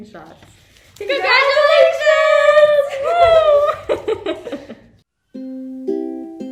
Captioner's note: laughs; soft music